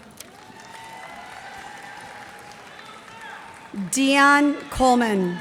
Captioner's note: cheers and applause